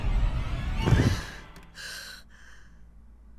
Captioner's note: gasps